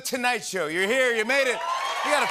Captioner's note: cheers and applause